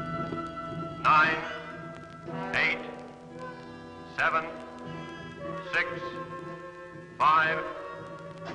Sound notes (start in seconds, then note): 1.5 loudspeaker